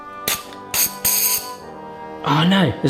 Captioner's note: gas hissing